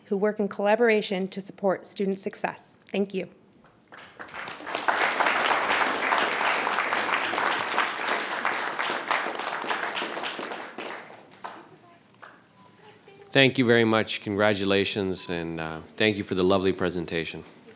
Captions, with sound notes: who work in collaboration to support student success. Thank you. (attendees applauding) - Thank you very much. Congratulations and thank you for the lovely presentation.